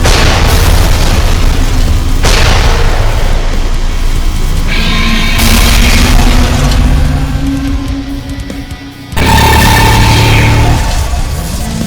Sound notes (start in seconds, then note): 0.0 explosions booming; 4.6 beam whirring; 5.4 explosion booms; 9.3 scorpion beast wails